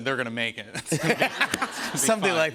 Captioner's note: laughter